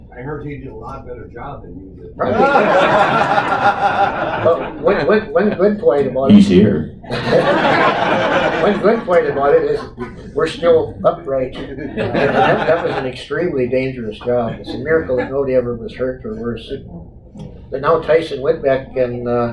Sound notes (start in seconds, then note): 2.2 laughter